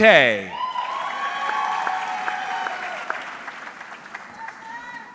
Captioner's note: audience cheering